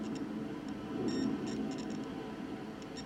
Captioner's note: beeping